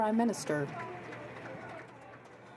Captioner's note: some Applause